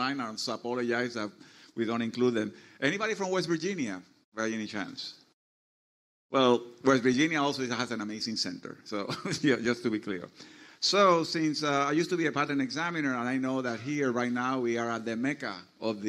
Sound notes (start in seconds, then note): 9.0 laughs